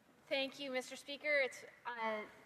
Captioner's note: speaking French